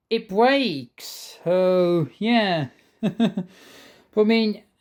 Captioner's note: chuckles